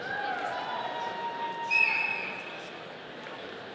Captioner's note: audience cheering